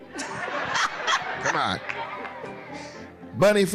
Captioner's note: laughing